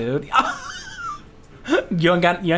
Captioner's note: laughs